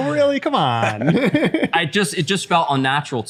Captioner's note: laughter